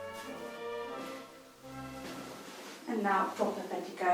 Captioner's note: footsteps